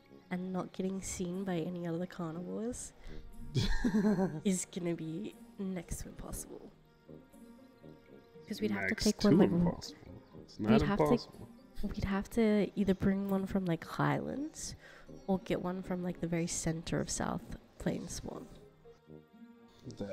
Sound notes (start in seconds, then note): 3.5 laughs